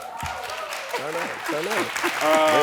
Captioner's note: audience cheering